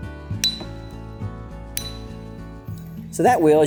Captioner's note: bright ringing sound